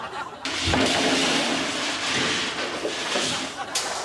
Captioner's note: crashing noises